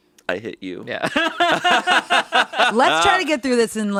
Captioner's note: laughing